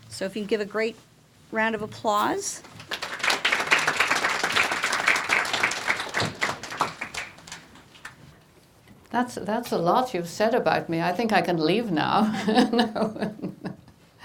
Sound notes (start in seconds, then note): 2.6 audience applauding